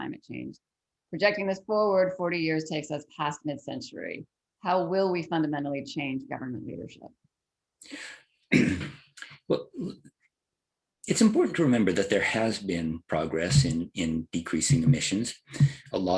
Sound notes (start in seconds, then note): 8.5 cough